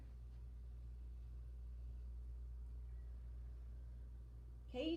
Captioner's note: breathe